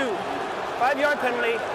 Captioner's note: booing